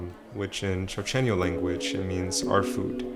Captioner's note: foreign language